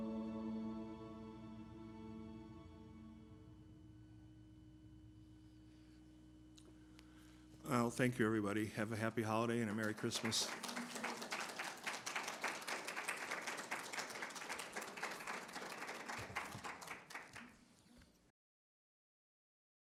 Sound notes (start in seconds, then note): 10.9 applause